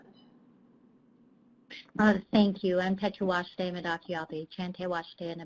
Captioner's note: speaking Native language